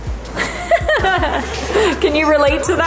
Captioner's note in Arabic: يضحك